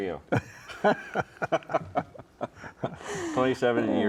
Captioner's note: chuckling